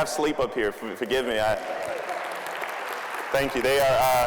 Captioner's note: applause